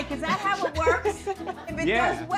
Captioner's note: people laughing